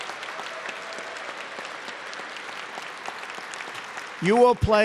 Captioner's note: applause